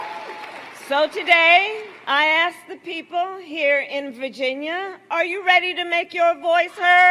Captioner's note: applause